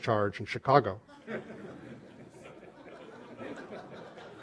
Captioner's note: laughter